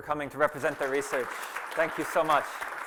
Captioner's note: applause